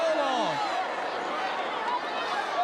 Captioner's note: crowd chatter